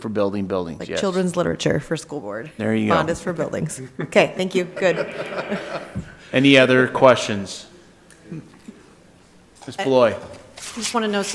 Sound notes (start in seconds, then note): 6.0 laughing